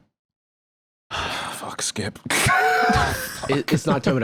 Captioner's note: laughs